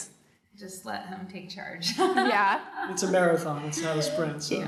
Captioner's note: laughing